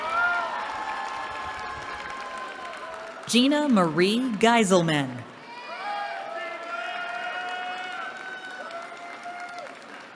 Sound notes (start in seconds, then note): 5.4 cheering